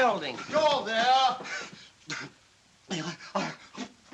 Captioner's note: panting